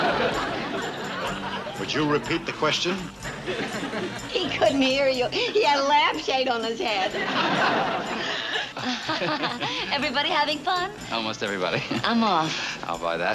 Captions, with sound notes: Would you repeat the question? He couldn't hear you. He had a lampshade on his head. (people laughing) -Everybody having fun? -Almost everybody. -I'm off. -I'll buy that.